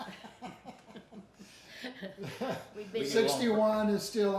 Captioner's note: everyone laughs